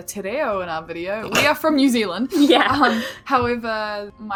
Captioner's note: laughs